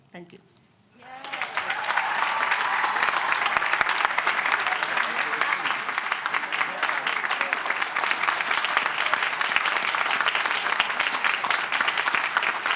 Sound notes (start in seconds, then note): 1.0 applause